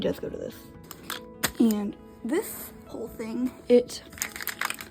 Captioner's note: slap